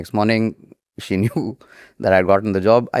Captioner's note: chuckles